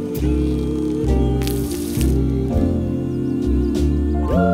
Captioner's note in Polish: dźwięk wylewanego na ziemię płynu